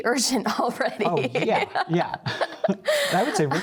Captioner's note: laughter